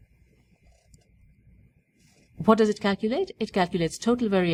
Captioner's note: pause